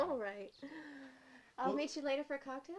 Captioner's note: giggles